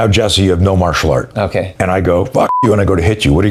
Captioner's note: beep